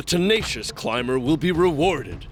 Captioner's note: none